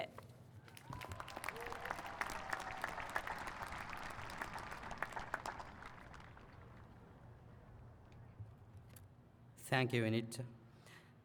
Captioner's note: applause